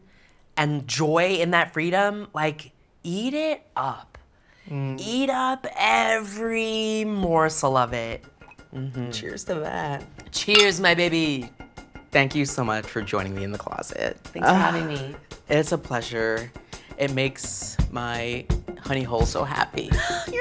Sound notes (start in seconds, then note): 14.4 sighs